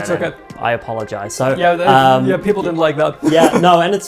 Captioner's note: chuckles